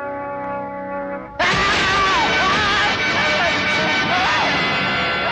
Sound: screaming

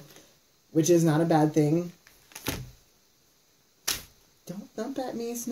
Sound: Snickerdoodle thumps

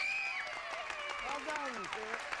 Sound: audience applauding

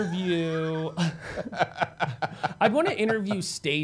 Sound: laughing

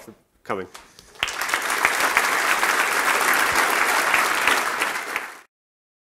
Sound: applause

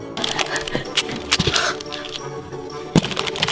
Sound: ripping paper

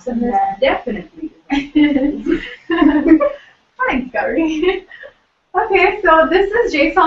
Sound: laugh

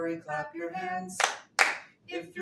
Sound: hands clapping

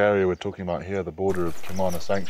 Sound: birds chirping

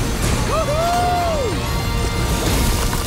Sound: cheering

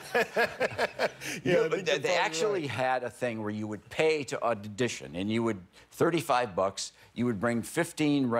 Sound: laughter

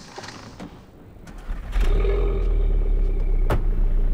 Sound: engine starts

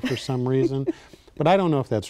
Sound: laughs

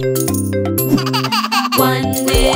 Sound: playful music; chuckles

